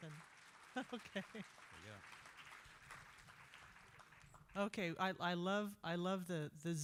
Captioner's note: applause